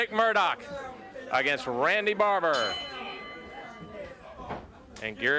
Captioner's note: bell ringing